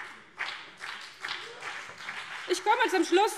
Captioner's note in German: Beifall CDU und BÜNDNIS 90/DIE GRÜNEN